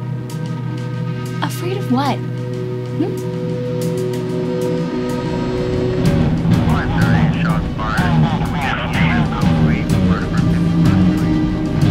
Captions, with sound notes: Afraid of what, hm? (instrumental rock music) - [Police Radio] All right, shots fired. (police radios murmuring)